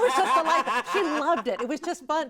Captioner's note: hosts laugh